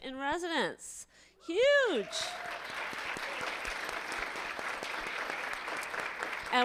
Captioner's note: audience applauding